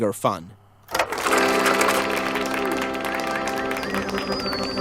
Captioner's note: audience applauding